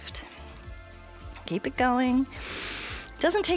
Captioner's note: inhales